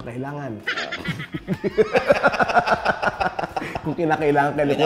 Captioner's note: both laugh